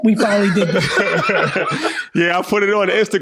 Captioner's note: laugh